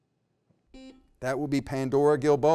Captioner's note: beep